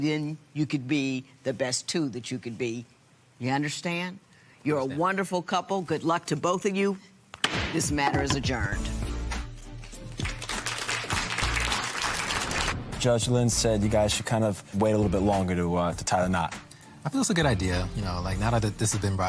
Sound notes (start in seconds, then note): 9.7 applause